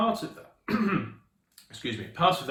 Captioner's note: coughs